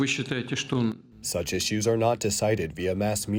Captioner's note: through translator